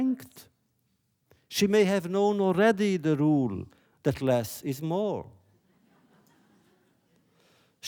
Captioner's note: laughter